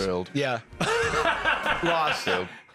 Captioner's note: laughs